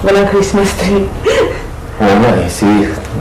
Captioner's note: chuckles